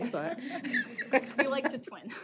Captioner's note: laughter